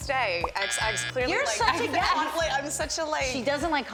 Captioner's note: assorted chattering